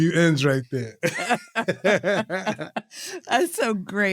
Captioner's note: both laughing